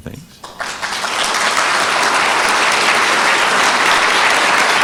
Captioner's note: audience applauding